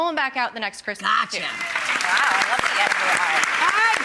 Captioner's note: applause